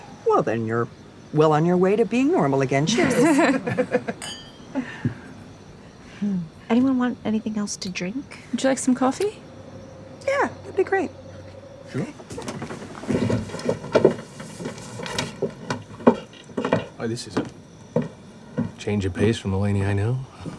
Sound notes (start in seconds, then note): 2.8 women laugh; 4.2 glasses clink